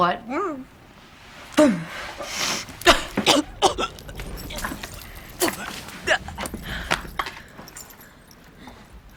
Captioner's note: Sarah coughs and gags